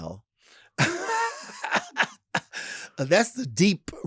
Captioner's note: Lady Bunny laughs